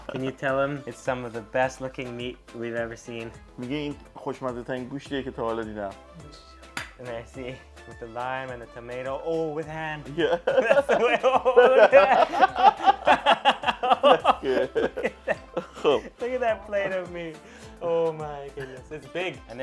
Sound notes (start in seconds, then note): 3.7 speaking in foreign language; 11.7 murmurs; 12.3 group laughs